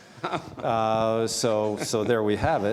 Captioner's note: laughs